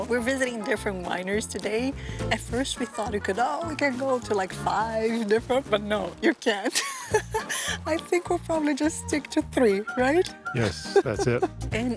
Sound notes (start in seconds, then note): 6.6 laughs